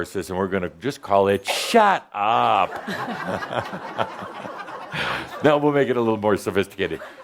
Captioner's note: laughter